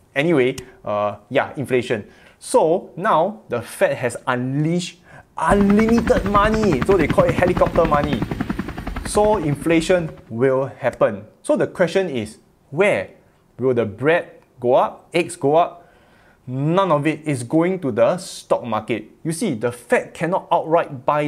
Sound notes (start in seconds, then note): 5.4 helicopter whirring